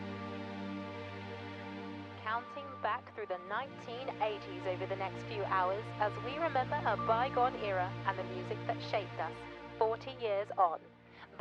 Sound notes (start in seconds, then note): 2.1 radio Announcer